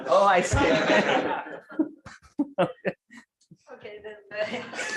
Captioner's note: laughter